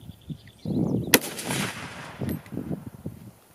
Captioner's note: gun fires